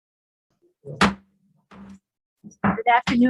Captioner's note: gavel banging